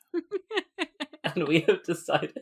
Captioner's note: laughing